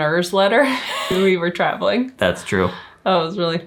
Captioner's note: chuckle